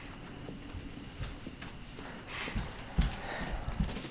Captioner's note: sniffs